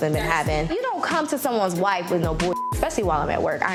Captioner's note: beep